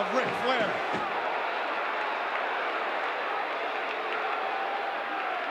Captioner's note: audience cheering